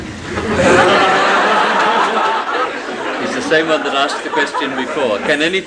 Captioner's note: laughter